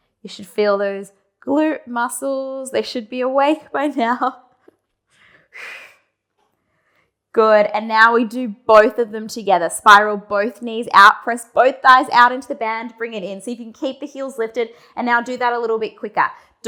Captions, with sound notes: You should feel those glute muscles, they should be awake by now. (breathing sharply) Good and now we do both of them together. Spiral both knees out, press both thighs out into the band, bring it in, see if you can keep the heels lifted and now do that a little bit quicker.